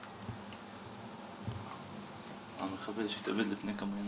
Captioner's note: French spoken audio